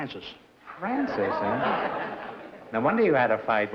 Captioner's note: laughter